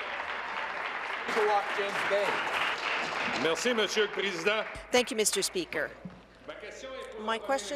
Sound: applause

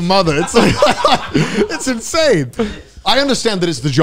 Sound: all laughing

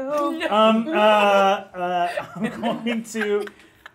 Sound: all laughing

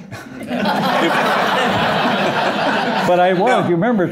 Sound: laughter

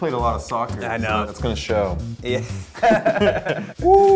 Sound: laughs

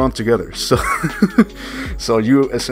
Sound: painful Laugh

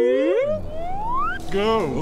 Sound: slide whistle

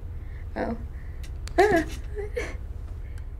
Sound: startled gasp

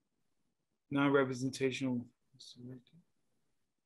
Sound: speaking away from mic

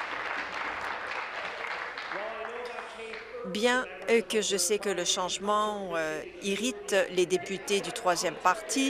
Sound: applause

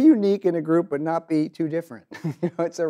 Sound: chuckles

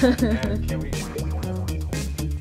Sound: laughing

